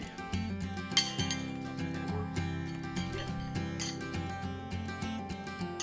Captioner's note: mellow music; horseshoe clanking